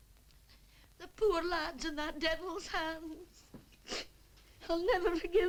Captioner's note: sobs